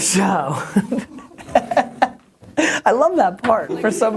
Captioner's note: laughing